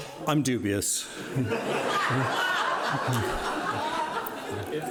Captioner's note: audience laughing